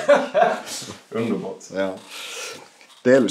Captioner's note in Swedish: Skratt